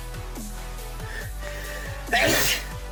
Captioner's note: sneezes